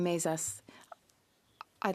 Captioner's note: speaking French